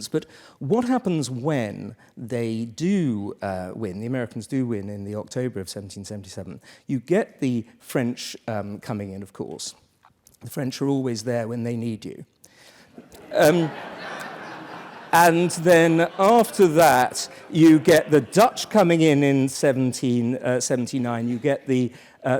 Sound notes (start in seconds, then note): 13.0 laugh